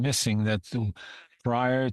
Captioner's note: speaking French